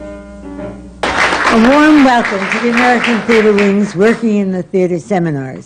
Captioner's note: applause